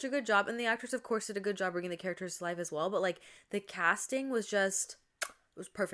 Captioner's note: mwah